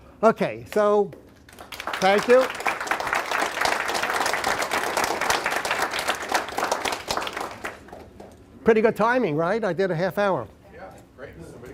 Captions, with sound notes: >> YEAH. OKAY, SO THANK YOU. [ APPLAUSE ] PRETTY GOOD TIMING; RIGHT? I DID A HALF HOUR. >> YEAH, GREAT.